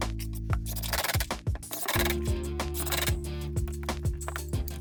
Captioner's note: drill whirring; gentle music